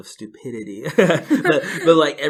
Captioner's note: laughs